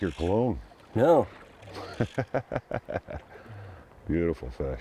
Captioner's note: laughing